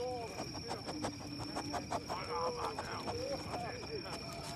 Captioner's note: sniffling